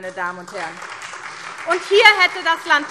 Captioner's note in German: Beifall SPD und vereinzelt DIE LINKE